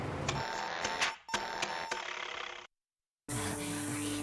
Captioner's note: beeping; engine sputtering